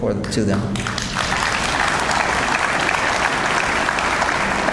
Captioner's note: audience applauds